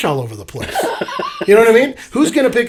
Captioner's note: laughs